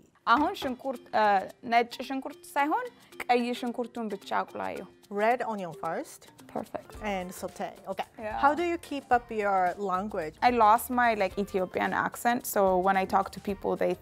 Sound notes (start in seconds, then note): 0.9 speaking Amharic